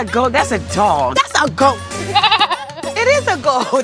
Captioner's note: bleating